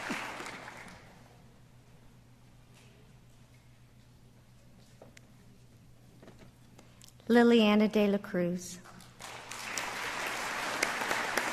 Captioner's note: applause